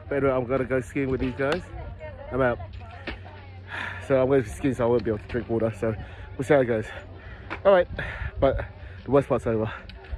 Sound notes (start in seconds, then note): 3.7 sighs